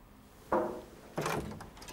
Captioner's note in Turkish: kapi çaliyor